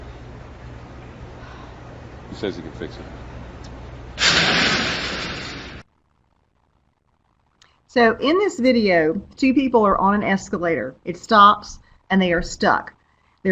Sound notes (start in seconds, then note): 4.2 escalator crashes